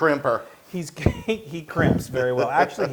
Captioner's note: laugh